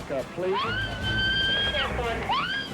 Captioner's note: driver screams